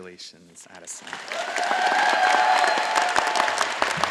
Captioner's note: all applauding